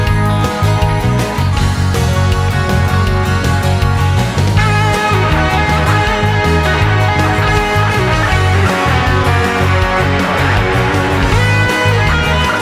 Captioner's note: applause